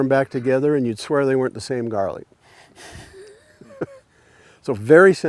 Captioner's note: laughs